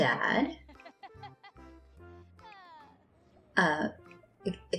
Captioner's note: Agatha laughs and sighs